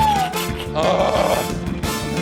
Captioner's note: groans